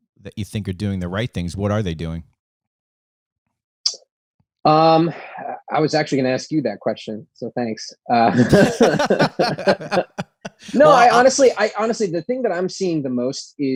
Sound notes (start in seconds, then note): 8.3 laughter